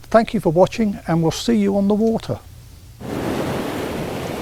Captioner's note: waves lapping